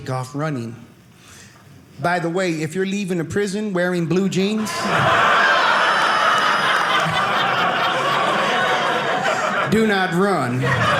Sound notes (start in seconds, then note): 4.6 audience laughing